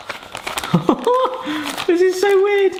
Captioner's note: laughing